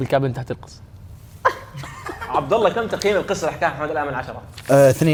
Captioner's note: laughing